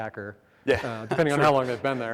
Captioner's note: giggles